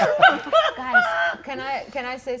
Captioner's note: all laughing